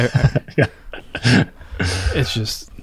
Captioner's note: laughs